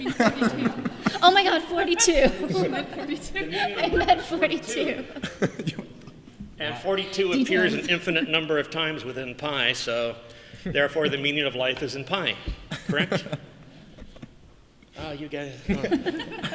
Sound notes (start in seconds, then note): 2.5 laughing